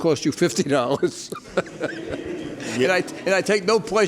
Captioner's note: laughter